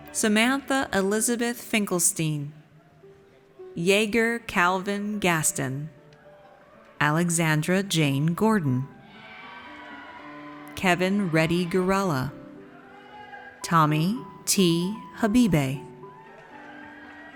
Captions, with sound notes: Samantha Elizabeth Finkelstein. Yeager Calvin Gaston. Alexandra Jane Gordon. (audience cheers) Kevin Reddy Gurrala. Tommy T. Habibe.